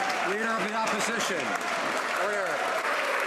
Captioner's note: some Applause